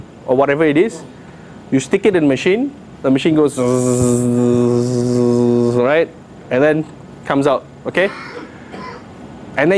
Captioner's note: buzzing